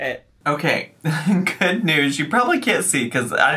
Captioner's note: chuckles